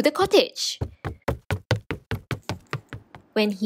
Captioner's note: running